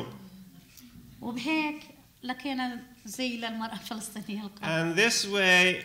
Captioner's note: speaking arabic